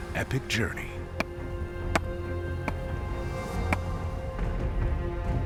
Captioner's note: hammering